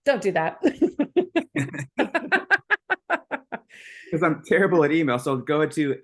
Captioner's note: person laughing